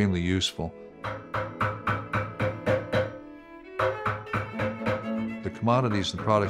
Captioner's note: hammering